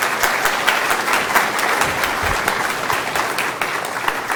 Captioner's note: applause